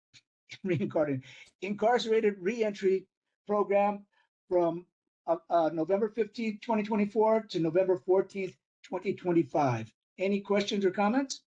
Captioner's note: laugh